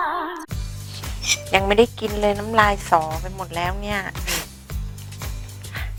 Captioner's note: drooling